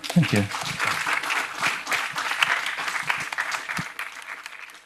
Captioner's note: audience applauding